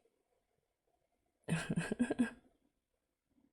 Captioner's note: laughs